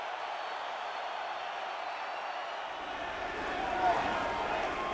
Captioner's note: crowd cheering continues; crowd vocalizing